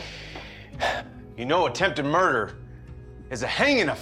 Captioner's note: sigh